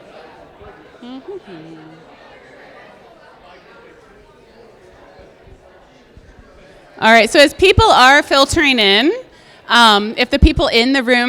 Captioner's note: humming to self